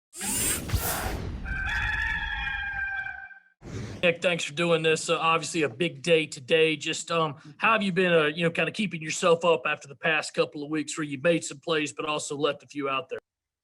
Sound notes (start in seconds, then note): 1.4 cock crows